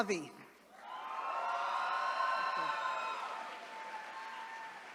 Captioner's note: attendees cheering